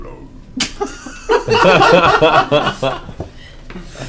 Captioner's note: all laugh